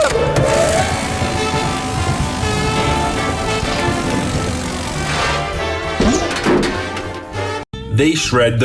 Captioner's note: shred door